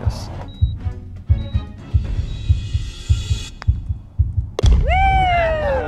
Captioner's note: heart beating